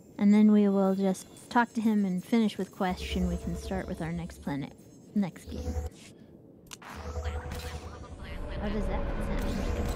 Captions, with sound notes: And then we will just talk to him and finish with question. We can start with our next planet, next game. [GUNSHOT] [NON-ENGLISH SPEECH] What is that? Is that a--